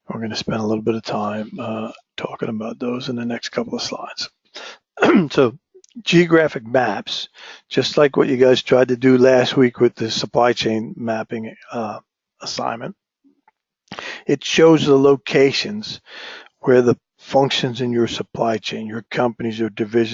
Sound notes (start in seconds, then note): 5.0 cough